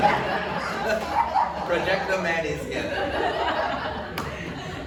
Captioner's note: audience laughs